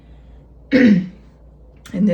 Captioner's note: clearing Throat